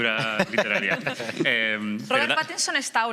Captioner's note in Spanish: todos ríen